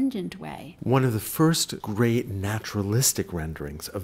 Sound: voiceover

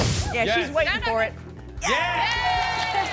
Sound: cheering

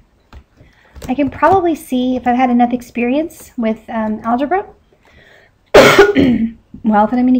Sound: coughs

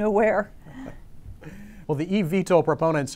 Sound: laughing

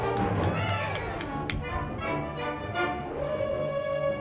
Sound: audience applauding

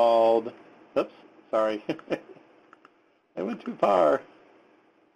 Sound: laughs

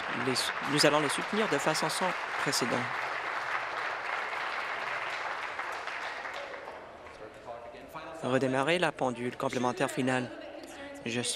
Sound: applause

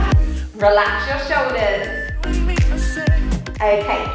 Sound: timer beeping

